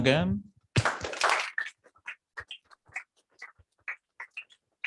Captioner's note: applause